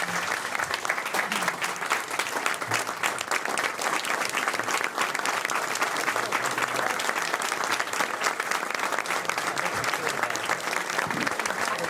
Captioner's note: applause